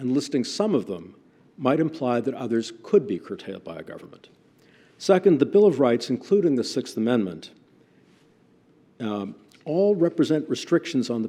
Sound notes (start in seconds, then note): none